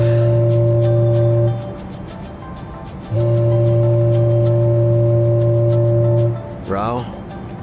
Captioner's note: foghorn